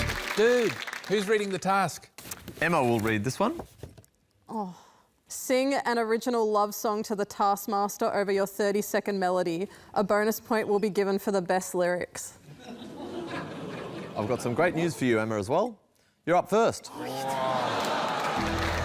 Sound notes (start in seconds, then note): 12.5 laughter